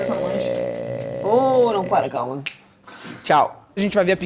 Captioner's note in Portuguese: som de estalar de dedos